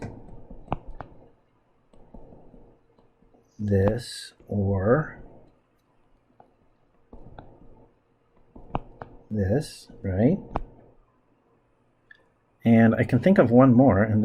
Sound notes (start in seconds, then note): 0.2 writing Sounds; 5.2 writing Sounds